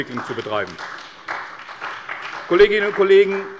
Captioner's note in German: Beifall bei der CDU und dem BÜNDNIS 90/DIE GRÜNEN